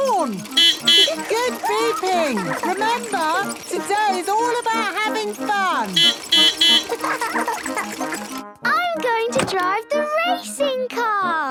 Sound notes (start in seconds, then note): 0.0 beeping; 5.5 laughing